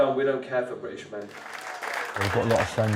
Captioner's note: audience clapping